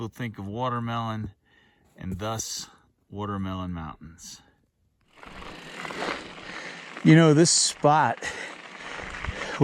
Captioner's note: bike whirring, gravel crunching